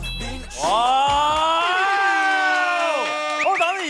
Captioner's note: exclaiming